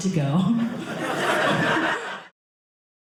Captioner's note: audience laughing